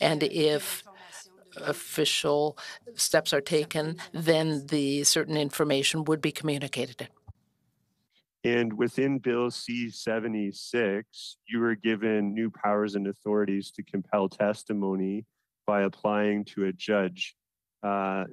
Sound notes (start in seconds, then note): 1.3 speaking French